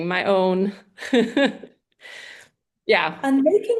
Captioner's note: laughs